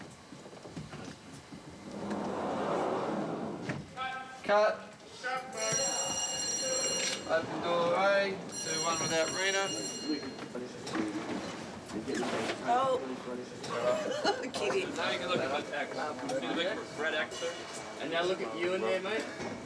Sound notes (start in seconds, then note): 5.5 bell Rings; 13.3 laughs